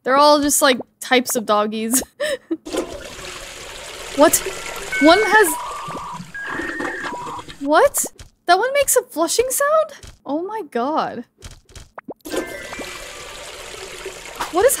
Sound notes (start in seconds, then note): 2.4 laughs; 2.6 toilet flushing; 12.2 toilet flushing